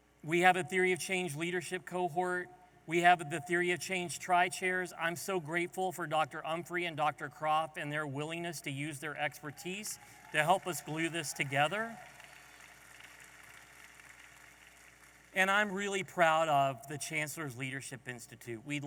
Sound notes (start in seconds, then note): 12.1 audience applauding